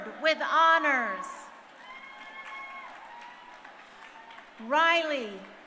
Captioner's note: crowd cheering